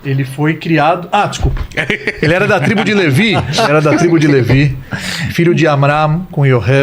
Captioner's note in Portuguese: risadas